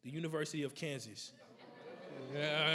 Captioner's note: everybody laughing